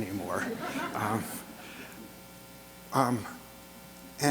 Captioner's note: audience laughter